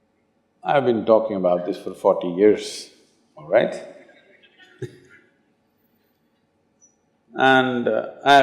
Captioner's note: laughs